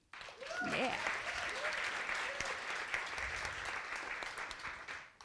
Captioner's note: audience applauding